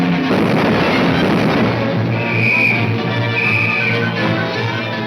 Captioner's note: whistle blowing